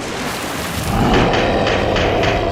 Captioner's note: monster roars